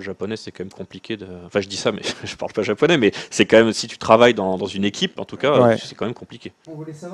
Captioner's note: laughs